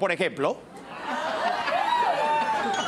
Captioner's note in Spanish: Risas